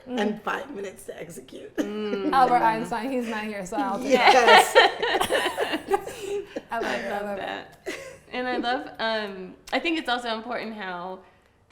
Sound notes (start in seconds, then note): 3.8 all laughing